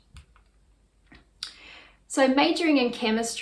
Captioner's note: mouse clicks